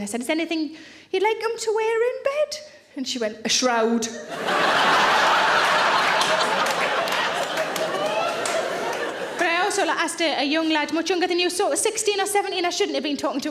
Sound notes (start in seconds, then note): 4.2 audience laughing